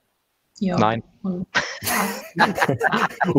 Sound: laughs

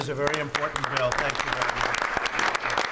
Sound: applause

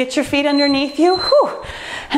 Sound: timer beeps

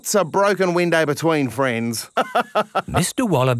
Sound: laughs

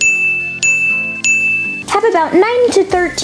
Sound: ding noise

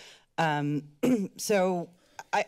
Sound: clears throat

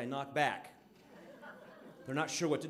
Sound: audience laughing

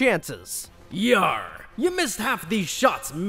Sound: in a pirate accent

